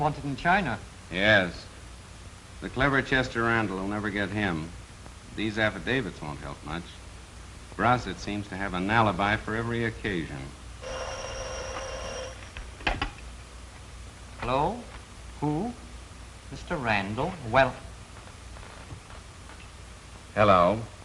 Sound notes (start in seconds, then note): 10.8 phone ringing